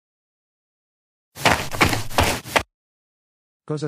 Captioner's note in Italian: FX - Footsteps - On Multiple Dirt - Run